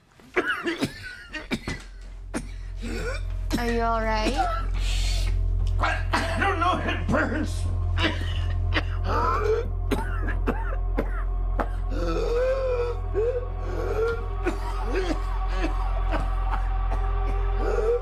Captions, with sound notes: (tense music) - Are you all right? - I, I don't know, it burns. (coughs) (gasps) (tense music continues)